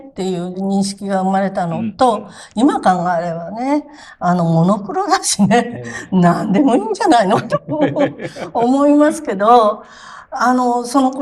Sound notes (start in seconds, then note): 9.3 laughs